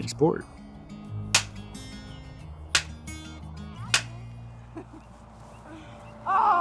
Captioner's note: sticks clap loudly